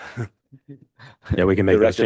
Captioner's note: laughs